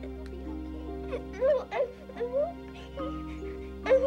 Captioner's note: sobbing